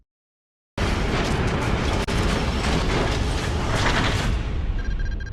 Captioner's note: metallic clanking